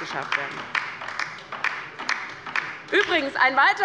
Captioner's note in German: Beifall bei der LINKEN